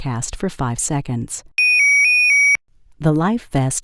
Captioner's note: loud sirens